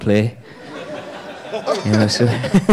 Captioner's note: audience laughing